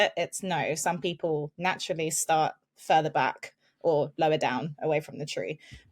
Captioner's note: none